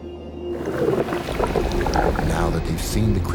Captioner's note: water splashing